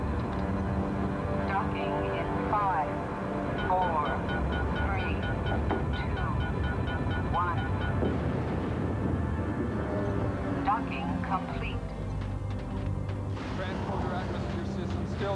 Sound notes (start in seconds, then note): 3.3 alarm ringing